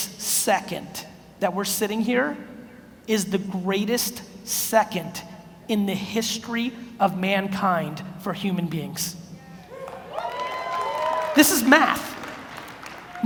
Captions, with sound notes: this second that we're sitting here is the greatest second in the history of mankind for human beings. (audience cheers) This is math.